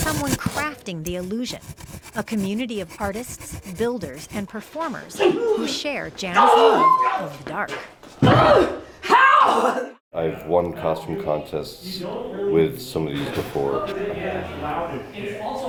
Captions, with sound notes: there's someone crafting the illusion. A community of artists, builders, and performers who share Jana's love of dark. (actors grunt) - How! - I've won custom contests with some of these before.